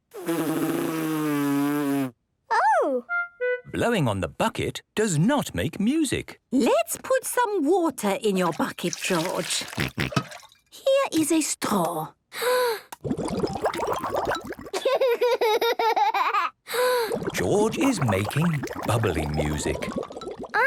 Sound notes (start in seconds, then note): 0.1 blows; 13.0 water bubbling; 16.8 inhales deeply, water bubbling